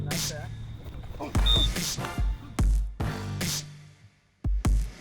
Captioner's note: whistle blows, grunts